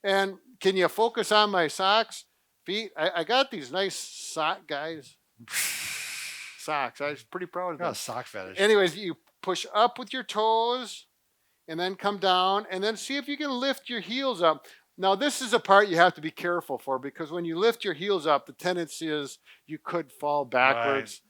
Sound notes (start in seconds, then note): 5.4 exhales